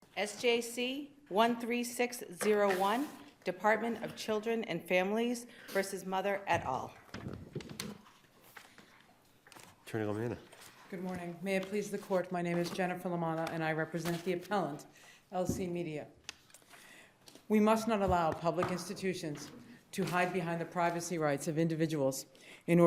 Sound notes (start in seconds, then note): 7.0 pages rustling